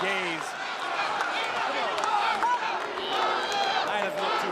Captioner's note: crowd cheering